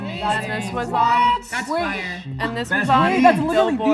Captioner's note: excited chatter